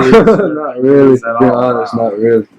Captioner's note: laughs